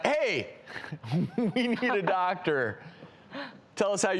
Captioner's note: laughs